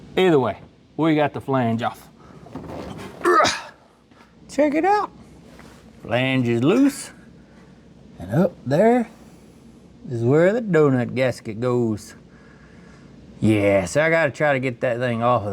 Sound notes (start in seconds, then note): 3.2 grunts